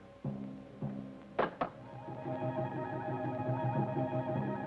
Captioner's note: rock clacks